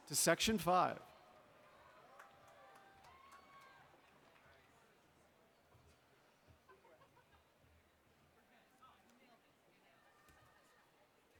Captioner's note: laughter